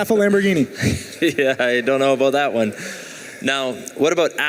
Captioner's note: chuckling